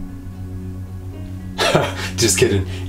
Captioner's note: laughs